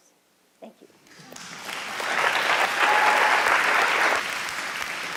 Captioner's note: applause